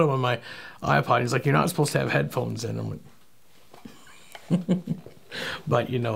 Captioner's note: laughing